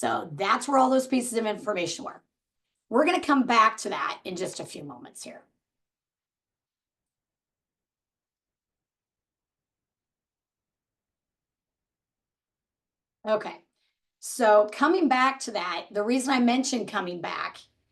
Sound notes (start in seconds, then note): none